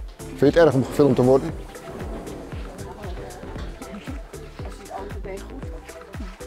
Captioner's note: speaking foreign language; woman speaking foreign language